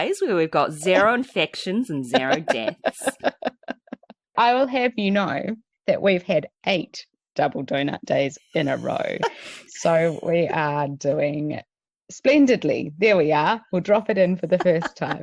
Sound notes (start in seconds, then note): 2.1 laughs